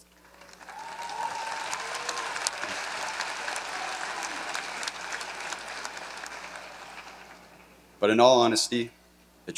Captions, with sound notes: (audience cheering) But in all honesty,